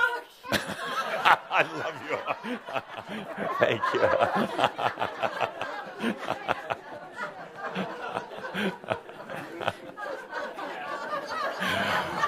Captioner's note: he hugs her and continues laughing